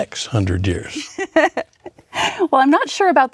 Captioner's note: laughing